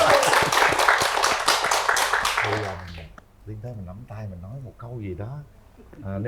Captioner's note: applause